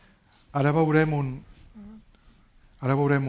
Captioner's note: speaking spanish